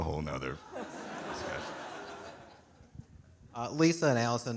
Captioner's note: audience laughing